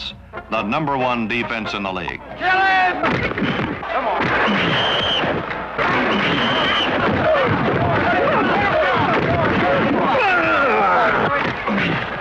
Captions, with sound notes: THE NUMBER-ONE DEFENSE IN THE LEAGUE. KILL HIM! COME ON. [ WHISTLE BLOWS ] [ INDISTINCT SHOUTING, GRUNTING ]